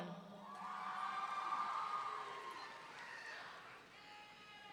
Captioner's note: audience cheering